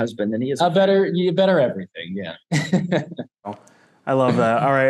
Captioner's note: laughs